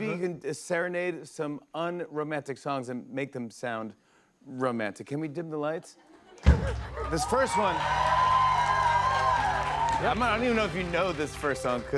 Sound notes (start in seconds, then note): 6.1 laughs; 6.9 cheers and applause